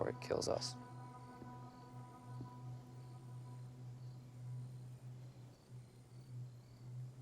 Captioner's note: crickets chirping; tense music